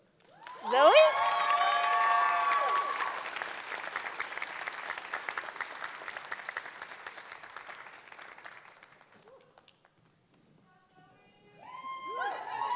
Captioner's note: applause and cheering